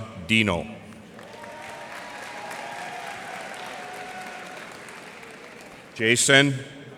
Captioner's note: cheers and applause